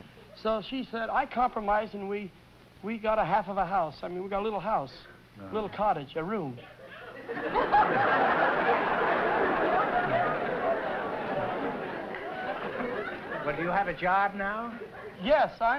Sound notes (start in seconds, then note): 6.8 laughter